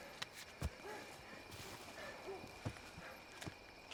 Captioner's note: dog barking